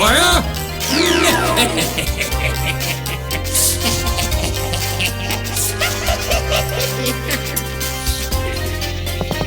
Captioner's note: laughing maniacally